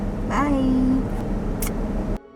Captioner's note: blowing kisses